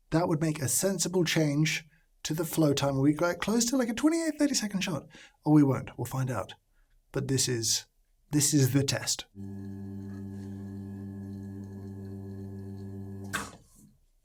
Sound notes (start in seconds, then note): 9.4 machine humming